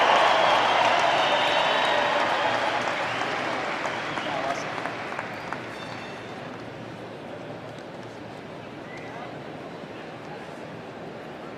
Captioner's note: applause